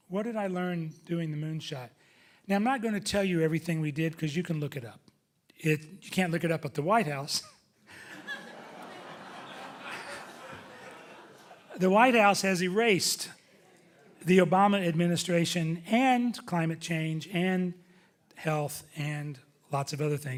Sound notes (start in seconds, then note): 7.9 audience laughing